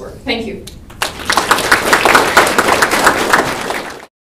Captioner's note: applause